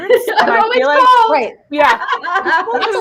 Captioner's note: laughs